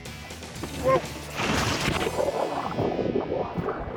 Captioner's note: splash